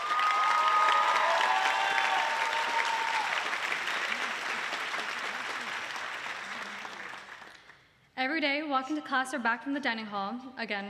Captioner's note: applause